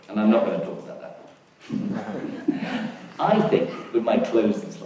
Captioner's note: audience laughs